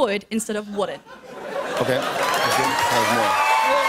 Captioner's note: cheers and applause